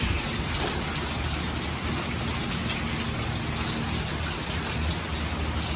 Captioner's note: constant rain falling onto lots of water